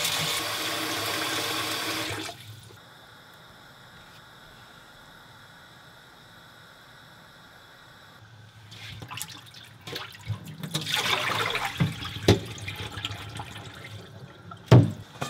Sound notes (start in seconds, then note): 8.8 water sloshing